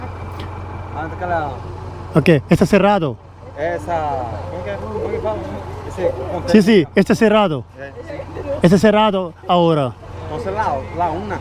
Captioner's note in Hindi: स्पेनिश में बोलना